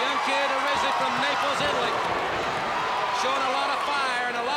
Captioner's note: crowd cheering